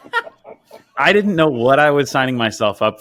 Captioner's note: laughing